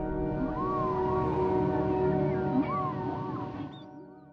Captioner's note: whales singing